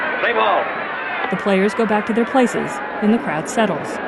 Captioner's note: crowd uproar lessens